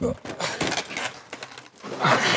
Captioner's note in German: Ächzen